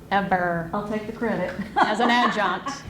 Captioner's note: laughs